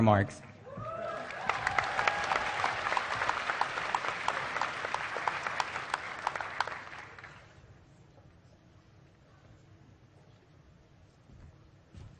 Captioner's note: applause